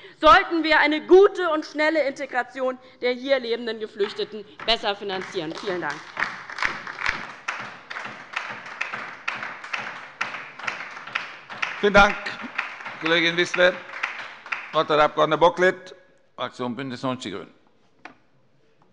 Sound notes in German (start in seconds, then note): 7.1 Beifall bei der LINKEN